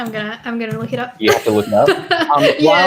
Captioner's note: laughs